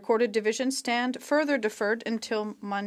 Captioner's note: speaking French